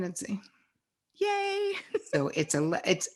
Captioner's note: giggles